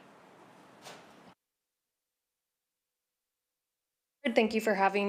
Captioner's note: silence